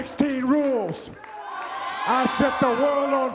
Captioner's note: audience applauds and cheers